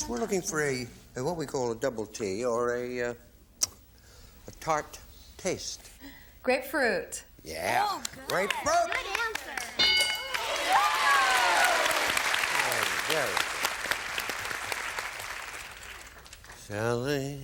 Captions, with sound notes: We're looking for a what we call a "double T," or a "tart taste." - Grapefruit. - Yeah. - Good answer! - Grapefruit? (bell) (applause) Sally?